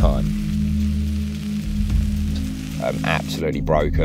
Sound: food sizzling

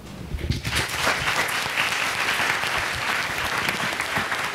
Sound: applause

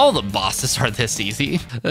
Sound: laughs, then cries in foreshadowing

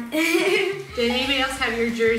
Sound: giggles

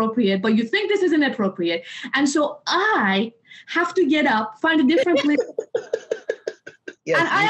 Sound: laughter

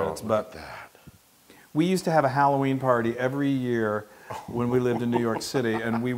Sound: laugh

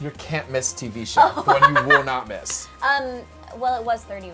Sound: laughs

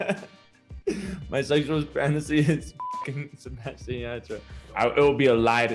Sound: laughs; beep; laughs

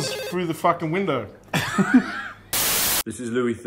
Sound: both laugh

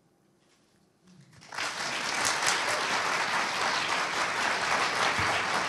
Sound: audience applauding

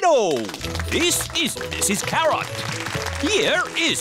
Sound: applause

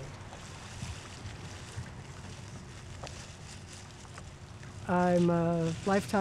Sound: rustling flowers

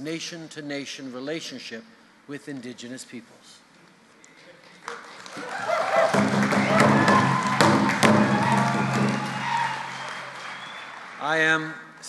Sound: cheers and drumbeats

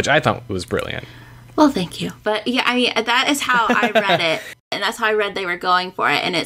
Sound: laughter

